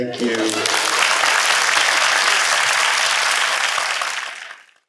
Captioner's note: applause